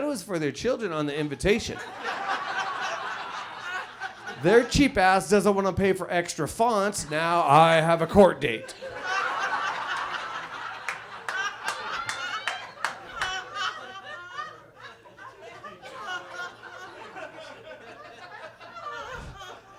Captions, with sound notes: it was for their children on the invitation. (audience laughs) Their cheap ass doesn't wanna pay for extra fonts. Now I have a court date. (audience laughs)